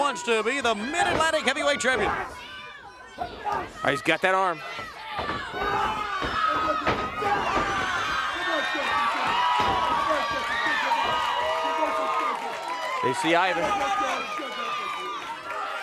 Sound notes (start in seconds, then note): 6.2 crowd cheering; 8.9 crowd cheering; 13.0 crowd chatter